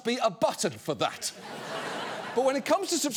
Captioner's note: audience laughing